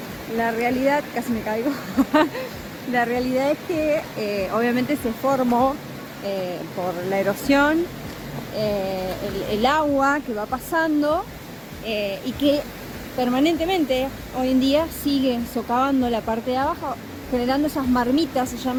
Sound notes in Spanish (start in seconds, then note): 1.7 risas